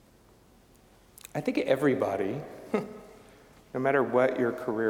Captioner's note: chuckling